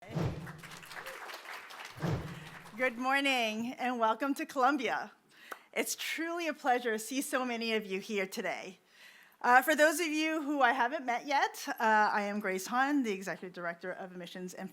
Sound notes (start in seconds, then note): 0.3 applause